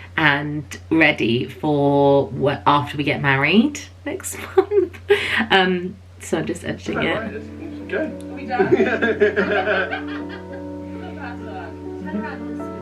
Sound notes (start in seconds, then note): 8.5 laughing